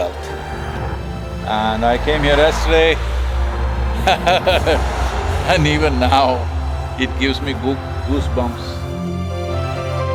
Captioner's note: laughs